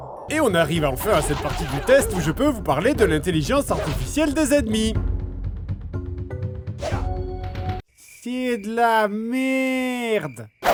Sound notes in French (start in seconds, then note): none